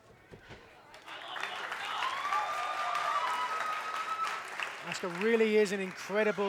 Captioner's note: crowd cheers and claps